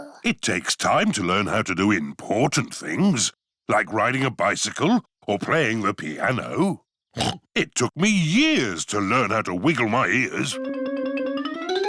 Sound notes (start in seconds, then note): 7.2 snorts